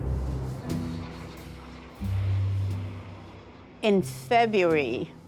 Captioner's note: engine roaring